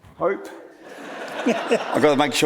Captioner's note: audience laughs